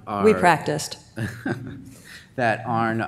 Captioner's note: man laughs